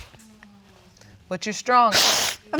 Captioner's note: sniffling